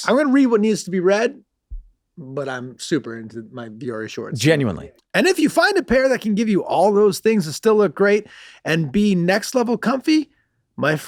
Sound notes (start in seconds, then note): none